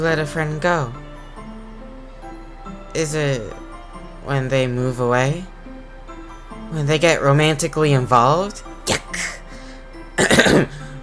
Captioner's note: ahem